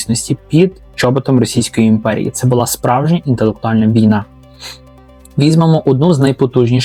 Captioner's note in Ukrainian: сопіння